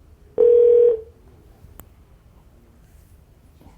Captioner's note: phone ringing